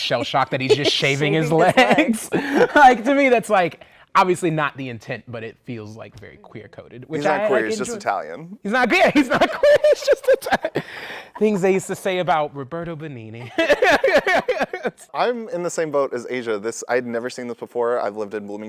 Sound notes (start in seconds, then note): 11.0 laughter; 13.4 laughter